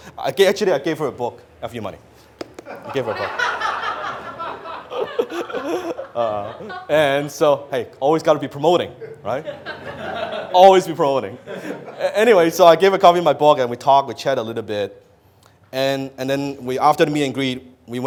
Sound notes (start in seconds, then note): 2.6 audience laughs; 5.3 laughs; 9.0 audience laughs